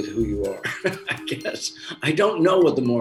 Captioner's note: laughs